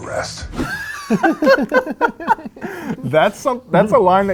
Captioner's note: laughing